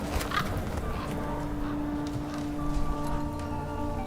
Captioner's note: falcon squawks